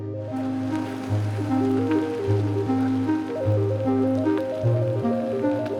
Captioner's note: tires roll over gravel